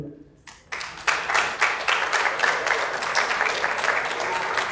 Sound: applause

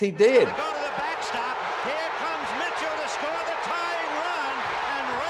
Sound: people cheering

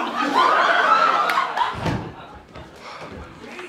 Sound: audience laughter

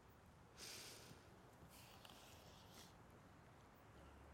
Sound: sniffling

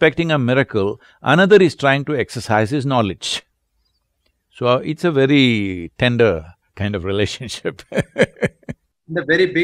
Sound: laughs

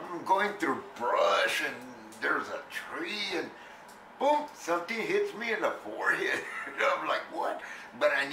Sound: laughs

